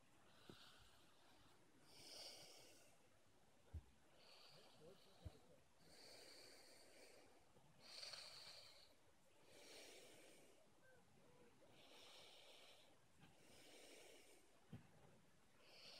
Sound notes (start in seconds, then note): 3.2 snores